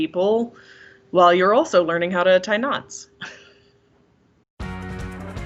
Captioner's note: laughs; upbeat music